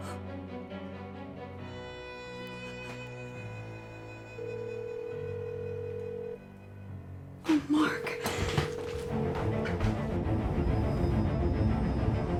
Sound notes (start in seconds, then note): 0.2 Carol cries; 4.3 phone ringing; 9.0 dramatic tense music